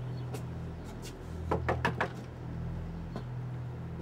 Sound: door knocking

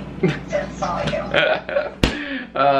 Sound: chuckling

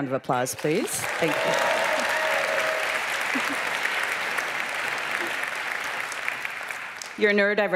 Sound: cheers

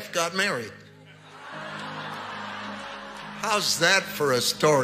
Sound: congregation laughing

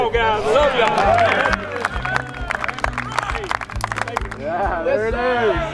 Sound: team clapping

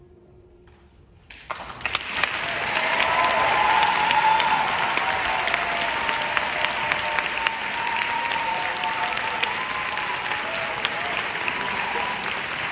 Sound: applauds

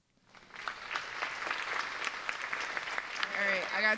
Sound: audience applauds

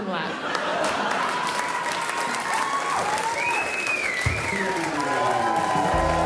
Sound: crowd cheers

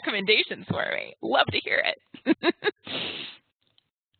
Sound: laughs

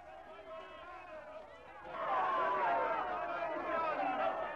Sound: people cheering

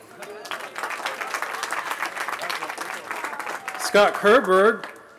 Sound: applause

